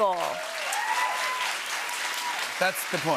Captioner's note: cheers and applause